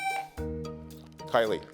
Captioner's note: buzzer sounding